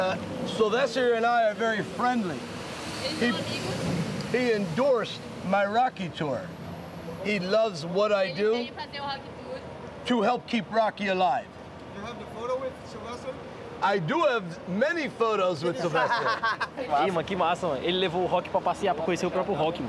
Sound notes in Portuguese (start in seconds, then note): 11.3 homem falando em ingles; 13.4 risos